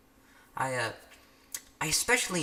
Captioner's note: lip smack #2